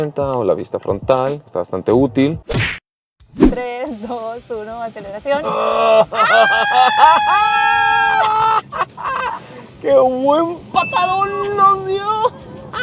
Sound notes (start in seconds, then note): 5.2 laughter